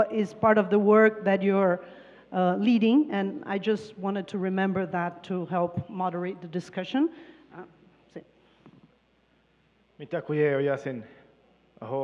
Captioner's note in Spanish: Traductora habla en inglés